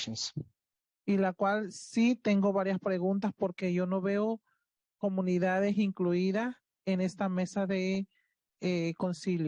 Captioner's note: speaking Spanish